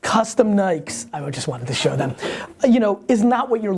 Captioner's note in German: Lacht